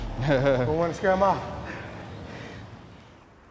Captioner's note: Tucker chuckles